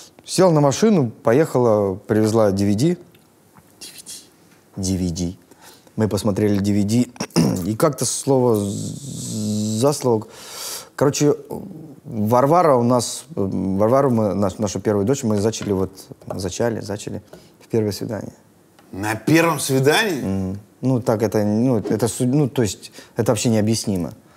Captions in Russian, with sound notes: Села на машину, поехала, привезла DVD. (шепотом) — DVD! — DVD. — Да. — Мы посмотрели DVD. И как-то слово за слово… Короче… Варвару, нашу первую дочь, мы зачали, вот, в первое свидание. — На первом свидании?! — Угу. — Ну вот так, это судьба, это вообще необъяснимо.